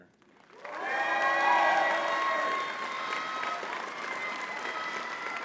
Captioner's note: audience cheering and clapping